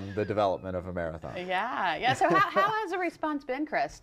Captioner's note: laughter